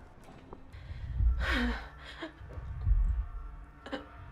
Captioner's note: heavy breathing